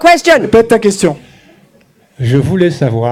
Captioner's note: speaking in French